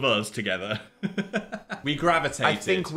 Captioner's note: Phil laughs